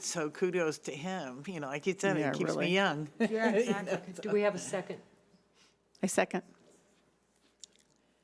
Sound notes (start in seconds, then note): 3.2 laughing